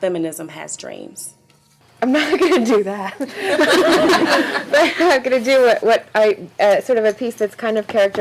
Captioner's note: laughing